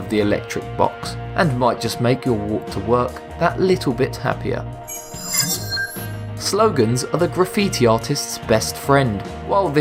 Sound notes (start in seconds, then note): 4.8 sharp chiming